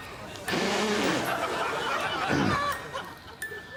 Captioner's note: blowing hard; audience laughing